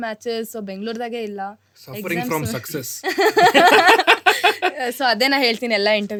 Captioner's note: laughs